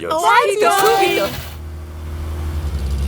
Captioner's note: car engine starts